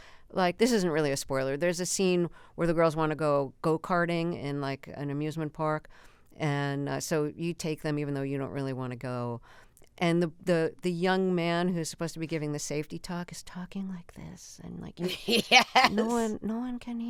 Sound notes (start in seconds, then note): 13.3 whispering; 15.0 laughter